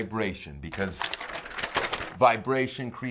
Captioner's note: paper crinkling